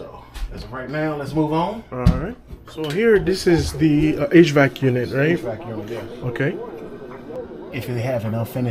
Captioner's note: hvac